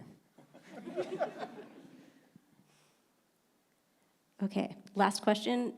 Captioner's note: panelists and audience laughing